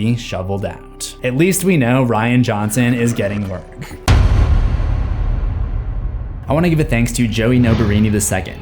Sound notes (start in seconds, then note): 4.1 impact